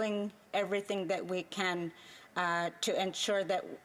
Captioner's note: speaking indigenous language